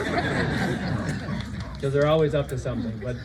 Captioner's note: applause